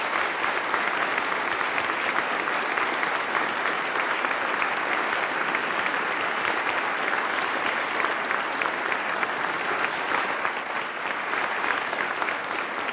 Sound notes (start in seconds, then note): 0.0 applause